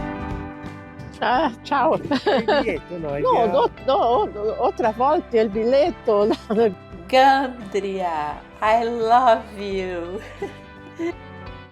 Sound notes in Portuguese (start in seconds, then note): 7.3 risos